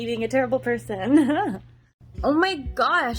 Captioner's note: laughs